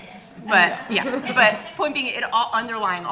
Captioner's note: chuckling